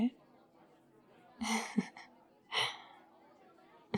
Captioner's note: laughs